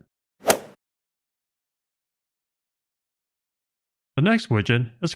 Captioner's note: golf ball hit sound effect